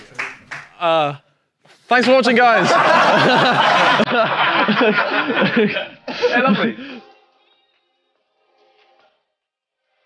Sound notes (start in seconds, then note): 2.6 audience laughing